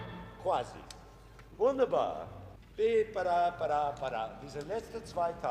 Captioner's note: orchestra stopping; speaking foreign language